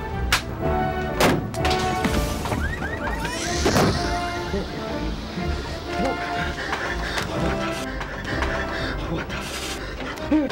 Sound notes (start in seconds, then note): 0.1 playful instrumental music; 1.4 crashing noise; 2.6 baby crying